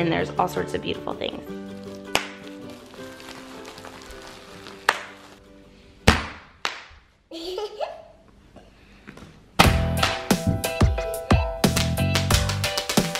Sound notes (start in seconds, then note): 2.6 bubbles popping; 7.4 laughs; 9.7 upbeat pop music